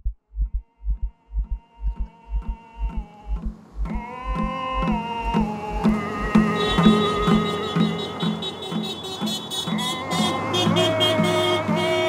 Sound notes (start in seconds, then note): 2.3 upbeat native music; 6.0 car horn honking